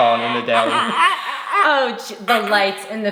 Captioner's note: vocalizing